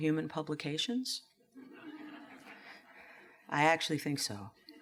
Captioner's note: laughter